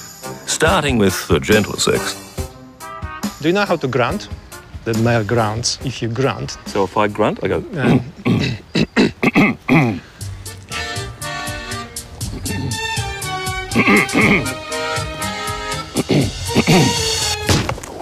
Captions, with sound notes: Starting with the gentler sex. Do you know how to grunt? The male grunts. If you grunt... So if I grunt? I go... (Both grunt) (Both continue grunting)